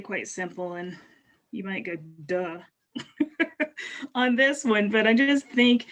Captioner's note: chuckles